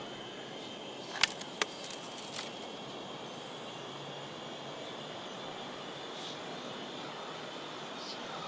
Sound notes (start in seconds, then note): 1.1 plastic doll cracks; 3.8 soft tense music